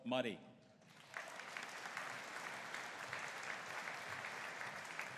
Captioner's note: audience applauding